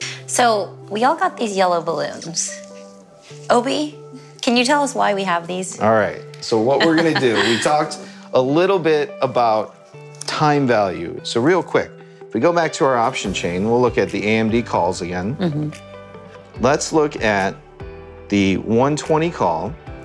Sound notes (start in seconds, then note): 2.1 balloon squeaking; 6.8 laughing